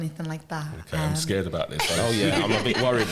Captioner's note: laughter